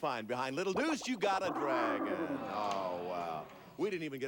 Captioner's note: dragon roars